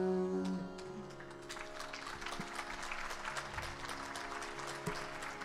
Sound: audience applauding

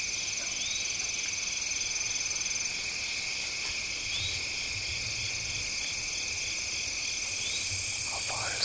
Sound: crickets chirping

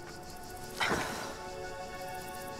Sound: sighs

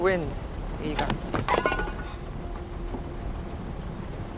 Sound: mug clattering

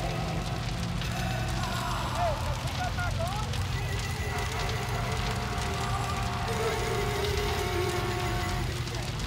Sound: background chatters

